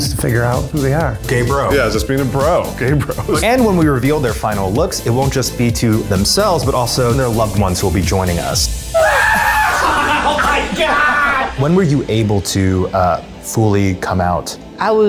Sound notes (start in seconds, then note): 8.9 screams